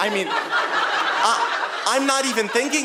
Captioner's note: audience laughing